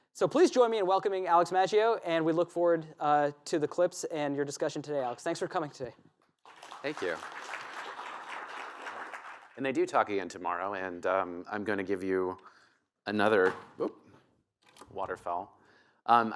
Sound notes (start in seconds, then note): 8.0 applause